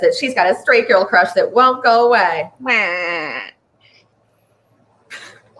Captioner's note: whines mockingly; chuckles